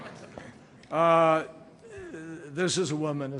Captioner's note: laughter